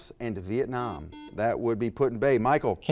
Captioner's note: beeping